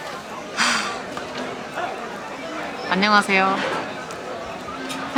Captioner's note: focus flies away with a sigh